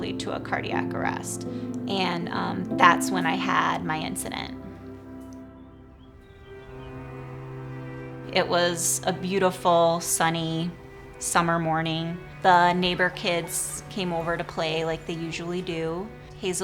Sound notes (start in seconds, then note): 6.6 birds chirping; 6.6 soft music